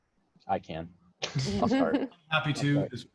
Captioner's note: laughing